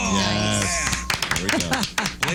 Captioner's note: claps